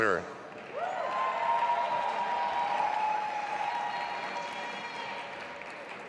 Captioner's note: audience applauding and cheering